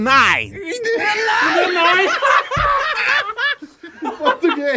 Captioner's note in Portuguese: risadas